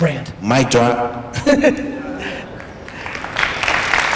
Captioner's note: applause